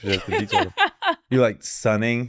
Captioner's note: laughs